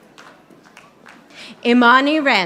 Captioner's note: audience applauding